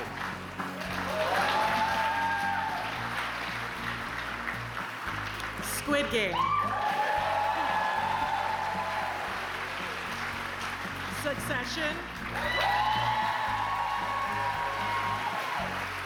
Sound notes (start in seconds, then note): 0.0 cheers and applause; 5.0 applause